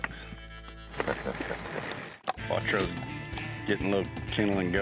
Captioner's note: both chuckle